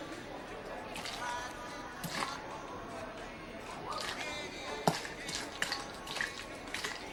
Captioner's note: Meatball shakes the water bottle as water sloshes